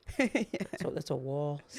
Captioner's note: laughs